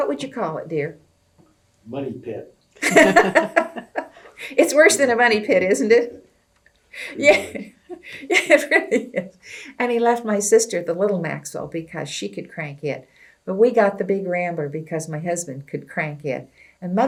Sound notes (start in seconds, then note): 2.8 laughter; 8.5 laughs